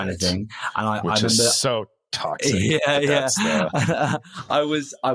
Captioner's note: laughing